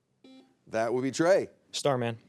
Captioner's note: buzzer beeps